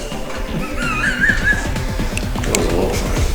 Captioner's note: laughs